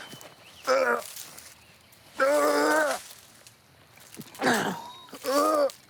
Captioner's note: throws up